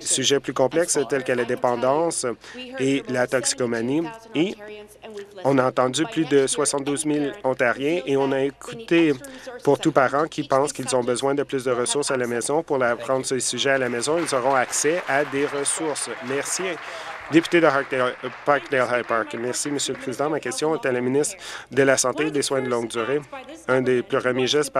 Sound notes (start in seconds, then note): 17.9 applause